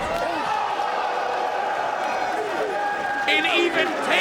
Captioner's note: crowd cheering